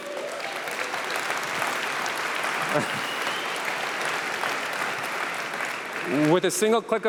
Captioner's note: applause